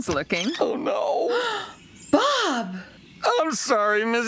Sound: gasps

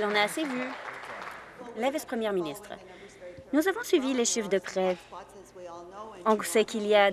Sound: applause

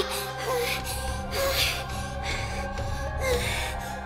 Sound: more heavy breathing

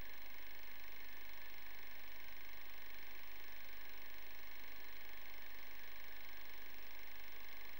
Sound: the sound of an old film projector running in background

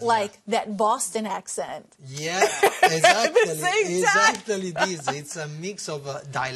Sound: laughter

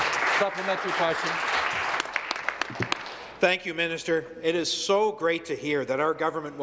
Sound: some Applause

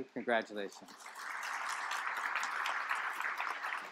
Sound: applause

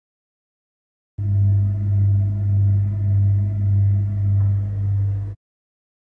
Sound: sound of fridge motor

